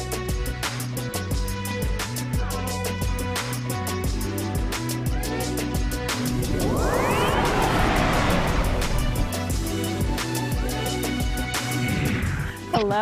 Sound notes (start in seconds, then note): 6.1 air swooshing; 9.7 upbeat music